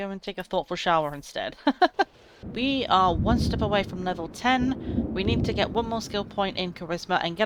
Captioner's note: laughs